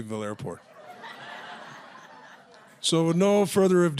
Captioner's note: audience laughs